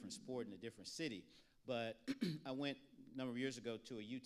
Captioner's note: clears throat